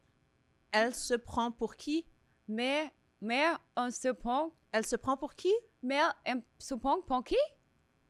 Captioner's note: speaking in French